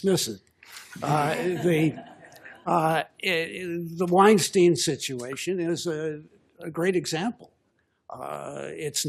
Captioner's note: laughter